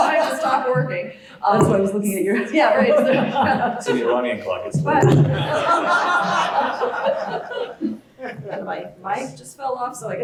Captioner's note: laugh